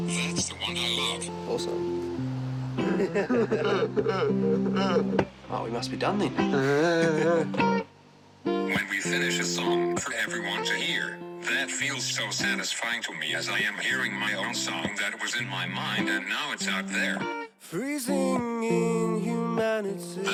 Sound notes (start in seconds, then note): 2.8 both laugh; 7.3 chuckles; 8.2 grunts